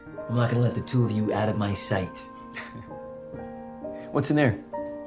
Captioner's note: laughs